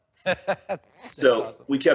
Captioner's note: laughing